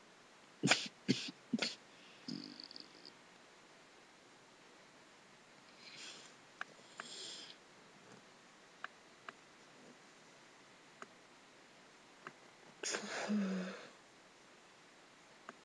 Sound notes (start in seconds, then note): 2.2 snores